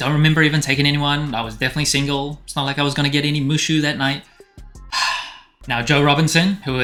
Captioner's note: sigh